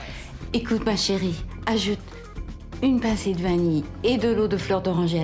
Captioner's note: woman speaking in foreign language